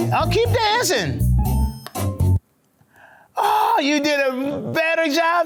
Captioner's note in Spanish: música instrumental juguetona; golpe de disco